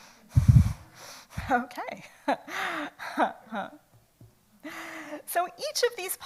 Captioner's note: laughs